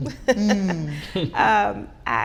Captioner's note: laughing